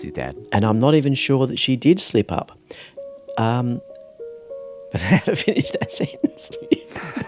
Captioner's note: laughs